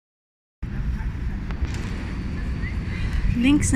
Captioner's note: traffic & wind